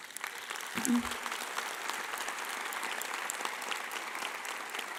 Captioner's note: audience applauding